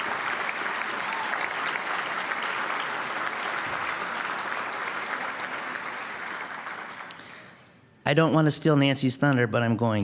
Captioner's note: applause